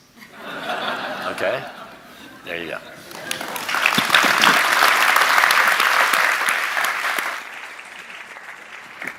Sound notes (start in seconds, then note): 0.2 audience laughing; 3.0 audience applauding